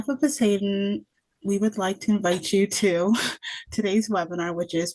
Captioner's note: laughs